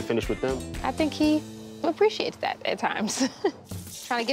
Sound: chuckles

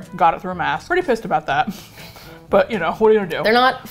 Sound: both chuckle

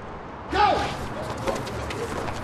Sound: voiceover; feet scuffling, people chattering, sneakers squeaking

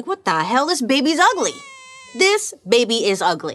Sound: baby crying

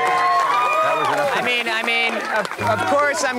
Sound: cheering

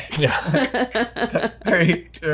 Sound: laughs

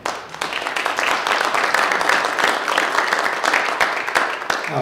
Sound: audience clapping

